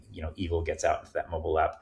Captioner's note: none